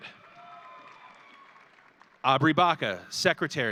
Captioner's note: audience cheering